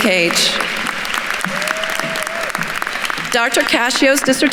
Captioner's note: attendees cheering and applauding